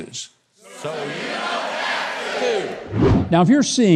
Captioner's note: crowd